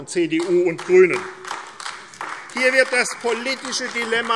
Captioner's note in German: Beifall AfD